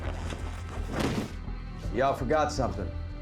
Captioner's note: thud, groan; thuds onto ground